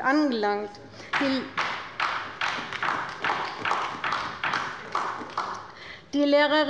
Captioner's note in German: Beifall bei der LINKEN